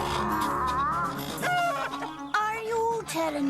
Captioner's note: clucks